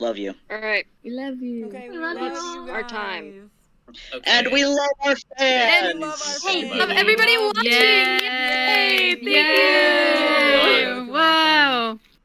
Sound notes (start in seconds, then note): 6.7 cheering